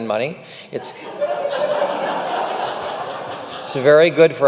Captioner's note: audience laughing